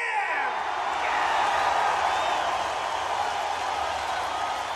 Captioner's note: crowd cheering wildly